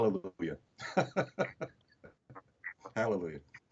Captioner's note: laughs